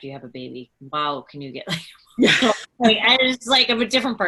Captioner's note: laughs